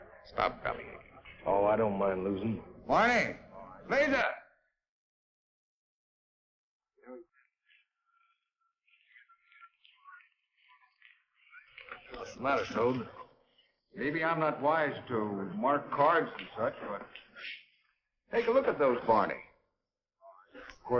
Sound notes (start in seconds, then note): 7.3 chatter